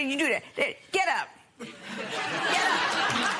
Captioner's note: laughter